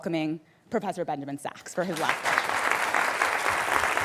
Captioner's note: applause